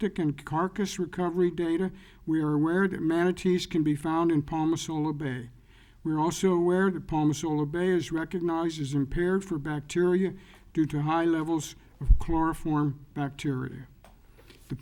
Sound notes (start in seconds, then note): none